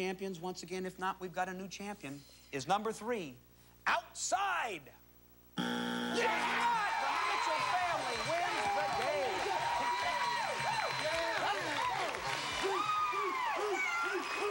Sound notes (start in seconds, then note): 6.1 cheers and applause; 9.9 cheers and applause